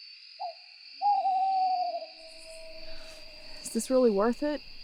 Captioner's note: owl hooting